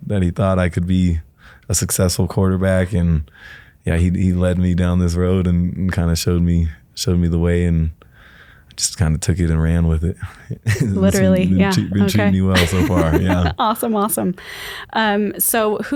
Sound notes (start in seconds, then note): 10.5 laughs